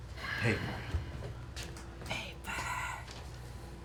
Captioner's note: whispering